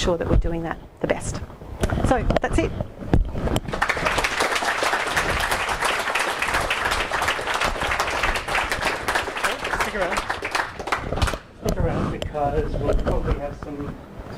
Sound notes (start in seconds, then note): 3.6 applause